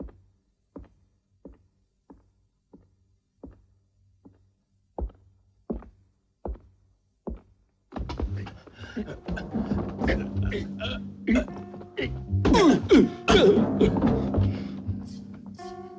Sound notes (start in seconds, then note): 8.1 groaning